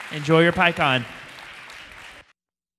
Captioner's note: applause